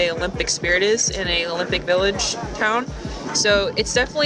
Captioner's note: people chattering; warm synth music